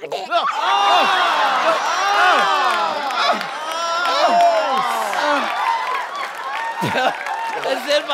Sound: groaning

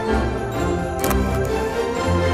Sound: camera shutter click

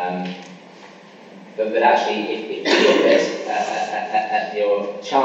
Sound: coughing masks speaker

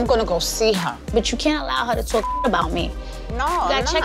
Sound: beep

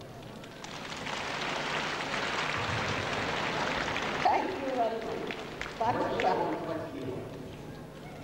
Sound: applause

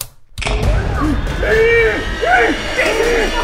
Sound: Hale screams

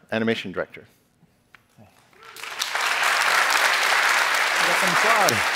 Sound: applause

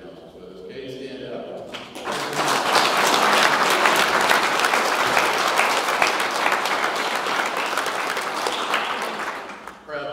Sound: audience clapping

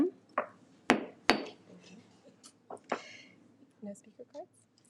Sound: gavel bangs

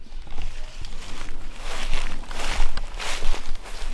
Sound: footsteps

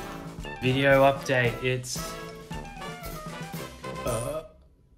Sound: gentle instrumental music; burps

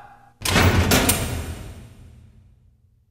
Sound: gate thudding

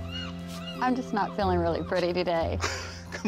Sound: chuckling

